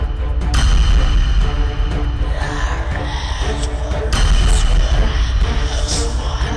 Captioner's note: demonic Chanting Continues